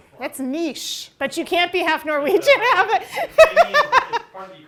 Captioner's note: laughs